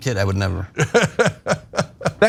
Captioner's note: laugh